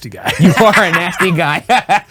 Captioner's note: laughing